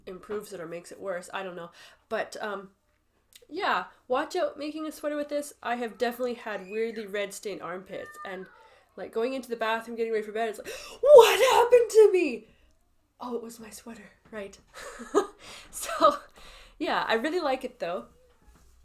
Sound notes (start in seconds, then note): 10.6 gasp; 14.3 laughs